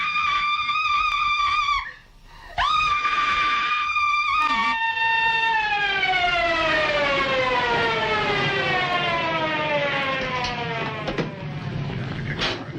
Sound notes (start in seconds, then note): 1.2 police sirens; 2.5 scream